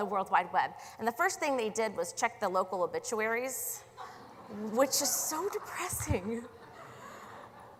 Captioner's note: laughter